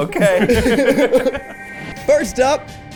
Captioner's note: people laughing